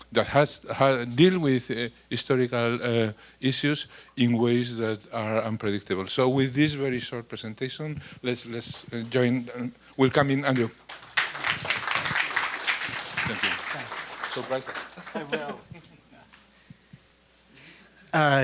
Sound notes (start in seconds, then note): 10.5 applause